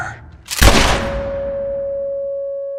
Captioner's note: bell